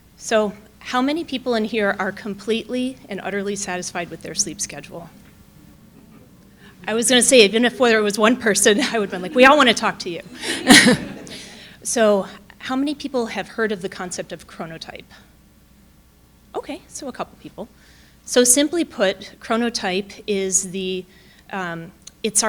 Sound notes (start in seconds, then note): 10.7 audience laughing; 10.7 chuckling